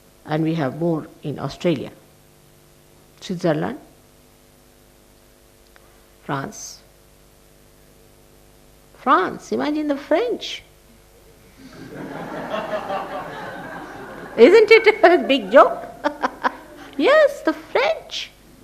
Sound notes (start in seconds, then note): 11.6 people laugh; 15.7 shri mataji laughs